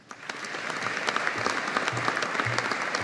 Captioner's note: audience applauding